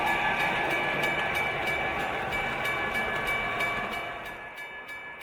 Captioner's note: laughs; bell ringing